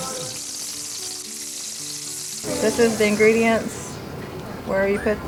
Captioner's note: grease sizzle